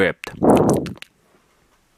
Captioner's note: uncomfortable licking noises